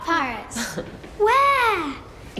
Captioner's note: laughing